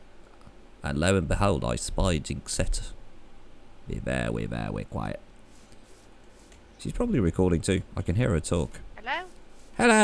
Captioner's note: bad Elmer Fudd impression